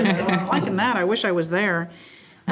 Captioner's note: group laughs